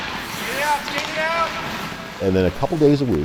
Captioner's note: player yells